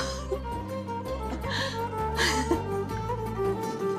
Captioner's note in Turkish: Gülme sesi